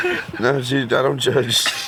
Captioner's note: laughter